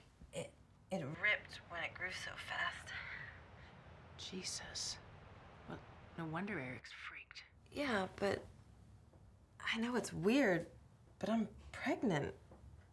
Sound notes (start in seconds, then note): none